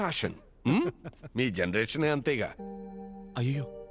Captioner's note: Laughs